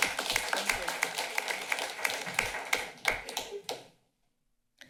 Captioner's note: applause